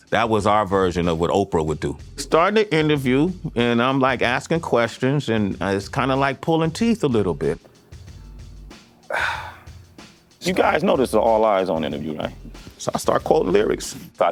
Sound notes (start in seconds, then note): 9.0 sighs